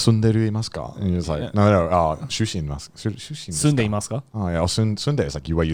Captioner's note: speaking in foreign language